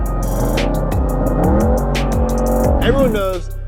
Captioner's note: engine revving